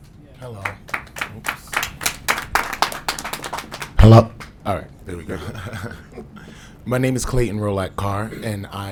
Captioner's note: applause